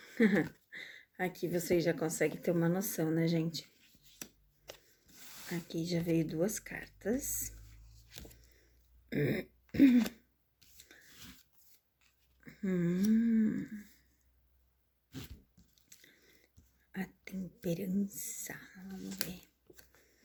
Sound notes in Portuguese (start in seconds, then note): 0.1 risadas; 7.2 limpando a garganta